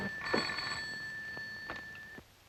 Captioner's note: telephone ringing